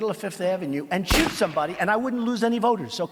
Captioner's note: gun firing